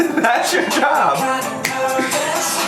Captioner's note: laughs